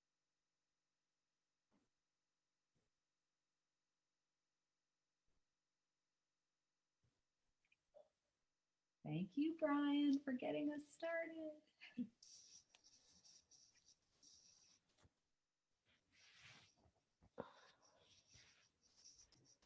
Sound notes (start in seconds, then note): 11.7 laughter